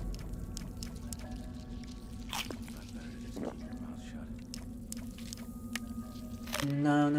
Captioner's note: mouse clicking